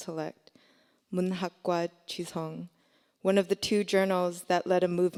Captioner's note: speaking korean